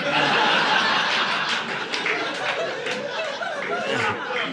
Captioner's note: audience laughing